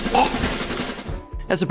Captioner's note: gasps